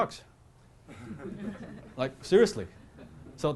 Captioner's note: laughter